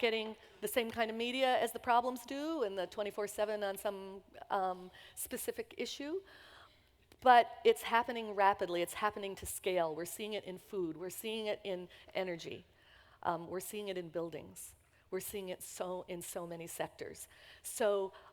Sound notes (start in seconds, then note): none